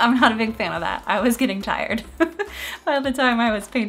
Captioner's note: laughs